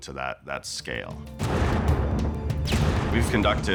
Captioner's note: rockets bursting